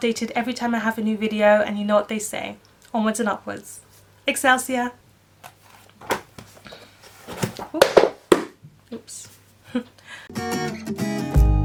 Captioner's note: drops books